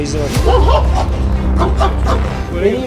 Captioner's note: barking sounds and tension music